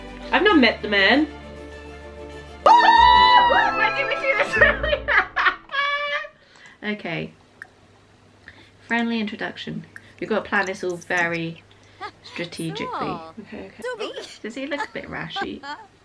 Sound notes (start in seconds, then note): 2.6 lots of screaming and happy noises